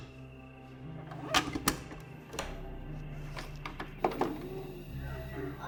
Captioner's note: VCR clicks and whirs